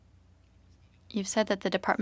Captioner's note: speaking French